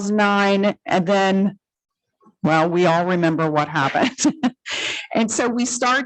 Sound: laughs

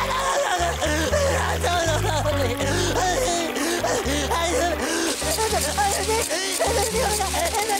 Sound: crying

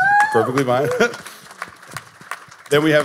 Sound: audience and panelists applauding

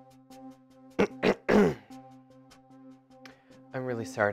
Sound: throat clearing

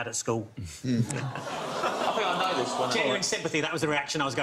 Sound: audiences groans

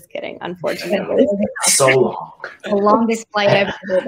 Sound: laughing

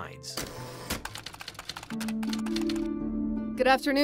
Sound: typewriter ticking

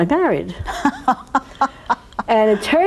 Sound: laughs

